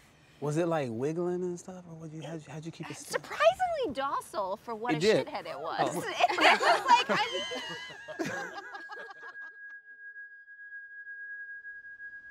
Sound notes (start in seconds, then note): 5.9 all laugh